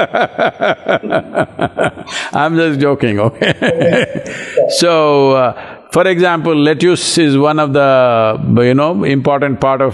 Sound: laughs

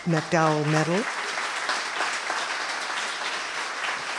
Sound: applause

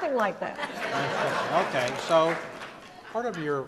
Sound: audience laughs

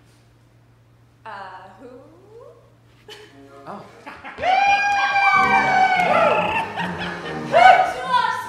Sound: applause

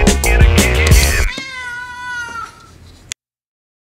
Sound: meow!

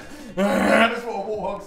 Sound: grunting; mimicking his noise

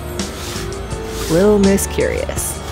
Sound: snuff

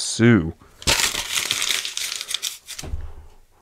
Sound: crumples paper

